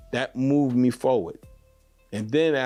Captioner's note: none